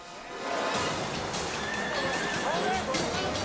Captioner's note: edgy dramatic music; horse neighing; rescues shouting